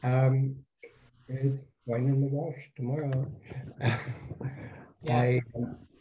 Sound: laughs

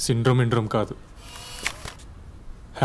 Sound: camera lens pops out

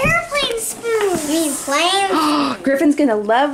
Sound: dramatic inhale

